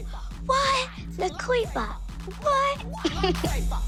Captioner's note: laughs